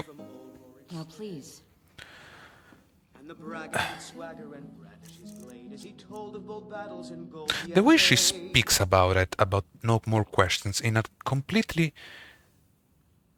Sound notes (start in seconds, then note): 3.7 sigh